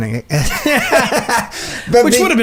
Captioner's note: both men laugh